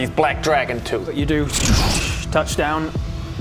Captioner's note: zrrschch